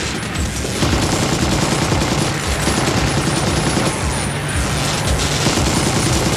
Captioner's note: electricity crackling; machine gun firing; computer explodes; machine gun firing